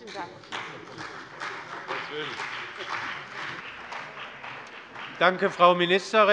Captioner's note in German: Beifall bei der CDU und dem BÜNDNIS 90/DIE GRÜNEN